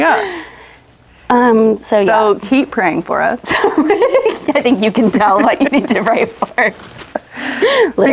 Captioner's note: laughs